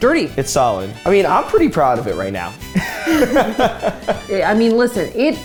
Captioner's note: laughs